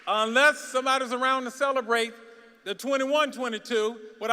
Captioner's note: applause